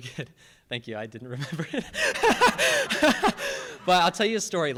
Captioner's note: laughs